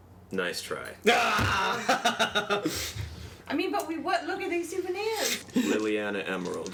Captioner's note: yell of frustration